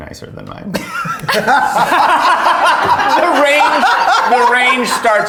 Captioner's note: all laughing